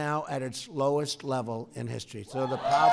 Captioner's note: applause